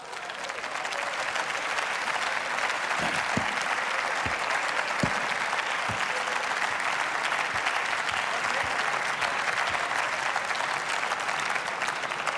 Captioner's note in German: Beifall